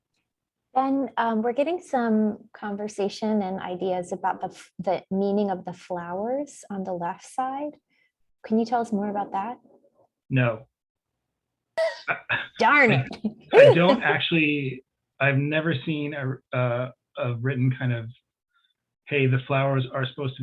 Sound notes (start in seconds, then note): 12.9 laughs